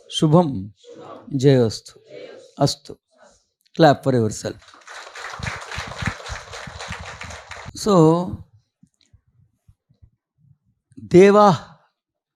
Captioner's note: clapping